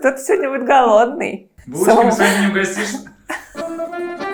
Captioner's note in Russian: закадровый голос